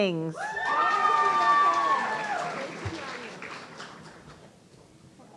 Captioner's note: audience cheering